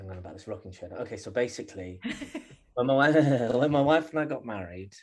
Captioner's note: laughter